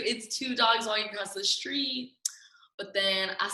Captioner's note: none